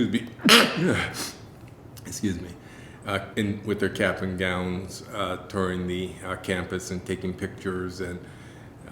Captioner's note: sneeze